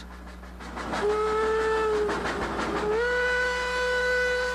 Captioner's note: train whistles